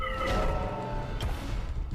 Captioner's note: game sounds